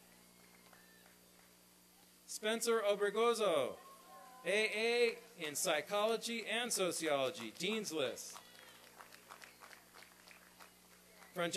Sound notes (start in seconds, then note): 1.8 applause; 8.2 applause and cheering